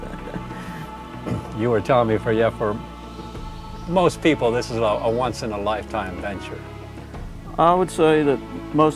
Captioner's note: laughter